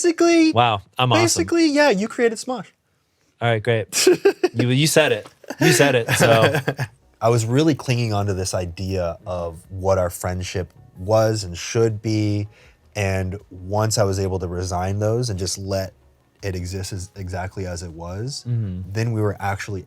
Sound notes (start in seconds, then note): 5.4 laughs